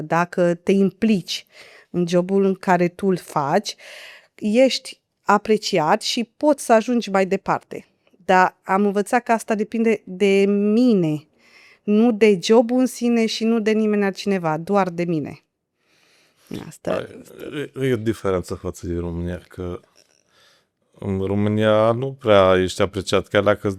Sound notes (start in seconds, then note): 17.1 snoring